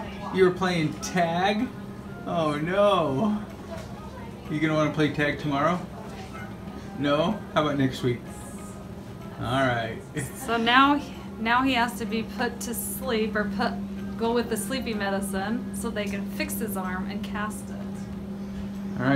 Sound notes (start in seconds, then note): 10.2 chuckles